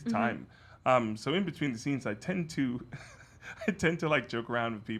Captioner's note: laughs